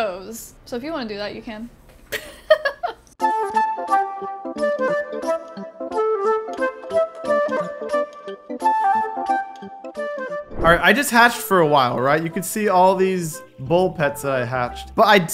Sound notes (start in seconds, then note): 2.1 laughs; 3.4 upbeat music